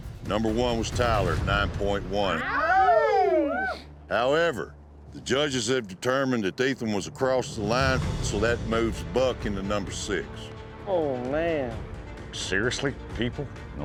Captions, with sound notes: NUMBER 1 WAS TYLER, 9.1. [CHEERING] HOWEVER, THE JUDGES HAVE DETERMINED THAT ETHAN WAS ACROSS THE LINE SO, THAT MOVES BUCK INTO NUMBER 6. OH, MAN. SERIOUSLY? PEOPLE...